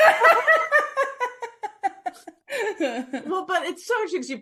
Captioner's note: laughing